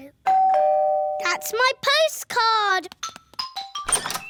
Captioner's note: doorbell rings